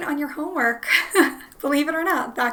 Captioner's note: laughs